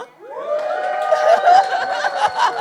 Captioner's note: audience cheers; laughs